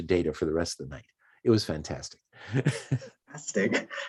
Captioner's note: chuckles